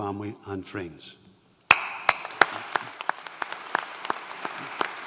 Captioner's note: audience applauding